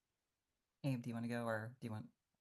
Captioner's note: hablando inglés